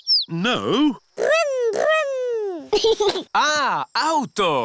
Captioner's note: giggles